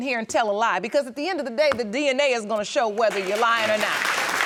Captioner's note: audience applauding